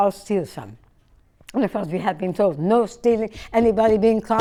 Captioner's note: bangs